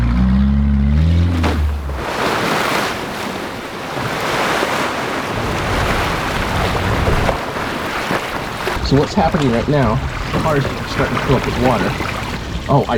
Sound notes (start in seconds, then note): 0.0 car zooms; 1.4 water splashes